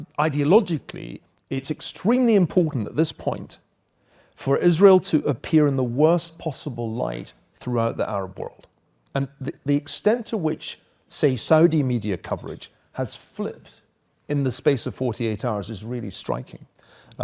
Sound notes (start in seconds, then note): none